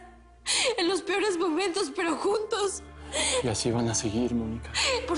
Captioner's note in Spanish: Solloza